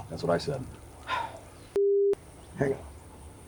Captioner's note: Anderson sighing